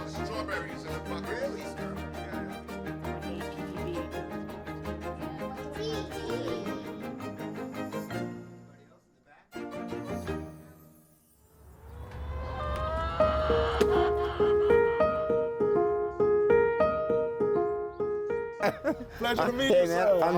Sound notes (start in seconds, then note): 3.3 gentle music continues; 12.6 chickens cawing; 13.2 gentle piano music; 18.6 chuckling